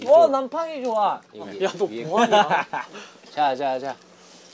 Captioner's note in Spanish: Jajaja